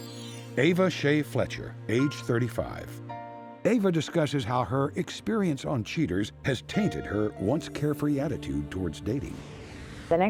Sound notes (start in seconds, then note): none